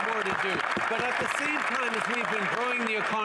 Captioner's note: some Applause